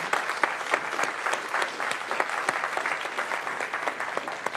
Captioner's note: applause